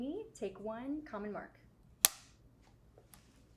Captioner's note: slate claps